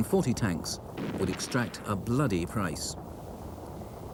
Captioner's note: cannons blast